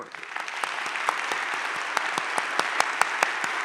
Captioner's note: audience claps